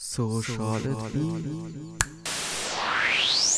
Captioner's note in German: Schnips